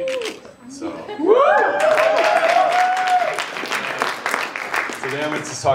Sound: cheers, applause

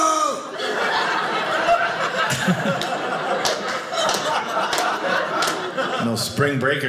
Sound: audience laughing

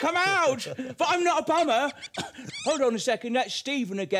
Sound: squeaking

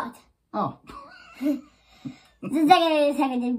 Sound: laughs

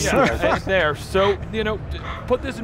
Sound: laughs loudly

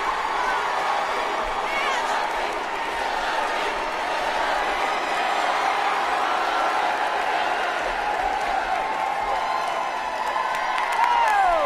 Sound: applause

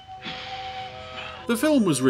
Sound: loud dramatic sigh

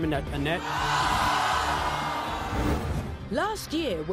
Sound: audience boos

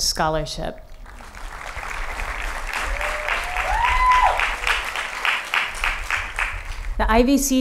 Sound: applause

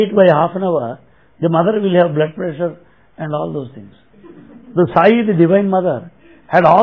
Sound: laughter

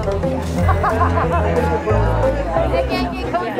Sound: people laughing softly

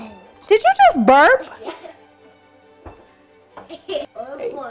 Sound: girls laugh

